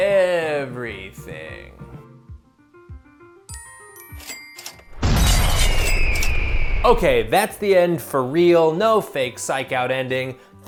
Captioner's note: explosion, bird screech